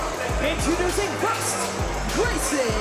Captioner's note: crowd cheers